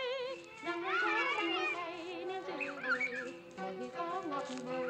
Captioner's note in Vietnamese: Tiếng cười nói